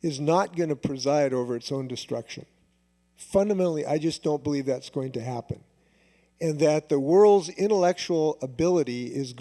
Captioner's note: none